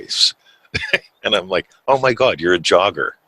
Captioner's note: chuckles